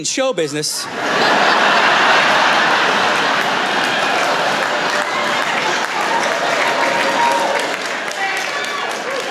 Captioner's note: cheering